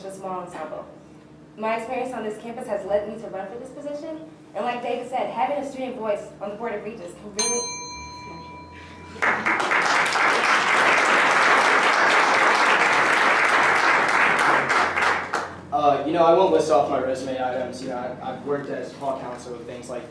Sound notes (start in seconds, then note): 7.4 ding signaling end of answer time; 9.2 applause